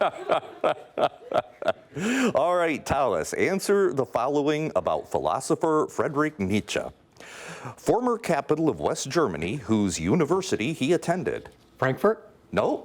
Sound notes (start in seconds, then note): 0.0 laughing